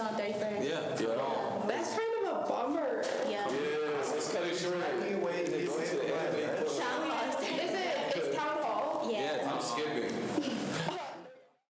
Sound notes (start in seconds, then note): 10.6 students chatter